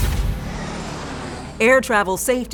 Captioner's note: airplane whooshes